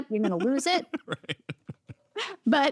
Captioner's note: laughs